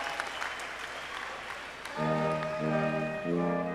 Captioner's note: cheers and applause